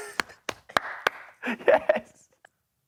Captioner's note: claps; laughing